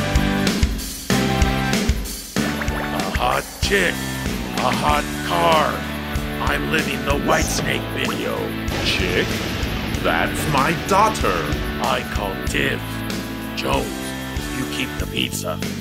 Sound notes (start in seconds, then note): 8.5 thunder crashing